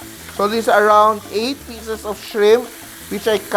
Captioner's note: sizzle